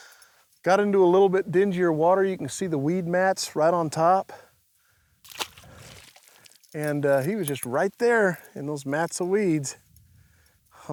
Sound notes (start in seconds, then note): 5.2 water splashes